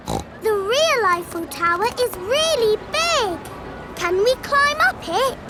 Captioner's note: snorts